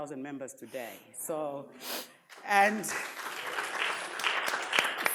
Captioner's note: audience applauds